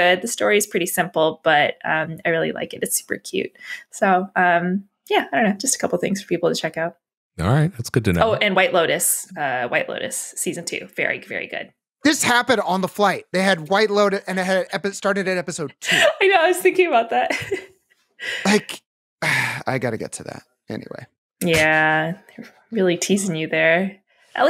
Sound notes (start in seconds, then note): 19.2 sighs